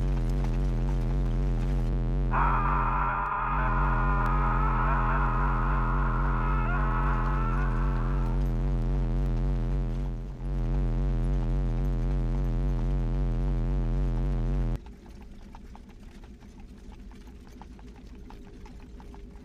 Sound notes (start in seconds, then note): 2.3 scream; 13.7 electric Warbling